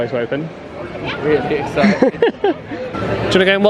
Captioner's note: laughs